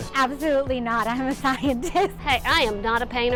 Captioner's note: laugh